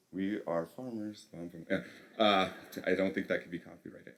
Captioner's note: laughter